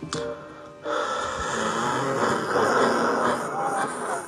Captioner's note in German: Röchelnde Atemgeräusche